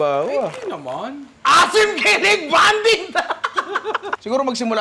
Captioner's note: laughter